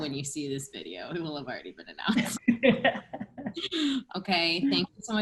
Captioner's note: laughter